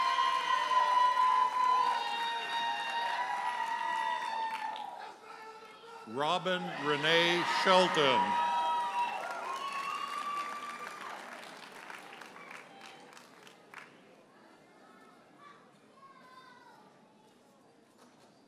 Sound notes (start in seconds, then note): 0.1 audience cheers and applauds; 9.2 audience cheering